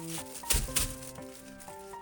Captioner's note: slap